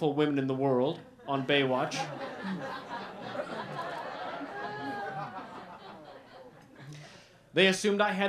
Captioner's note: laughter